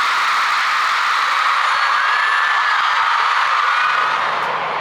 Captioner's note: Shouting "I love you, j-hope!"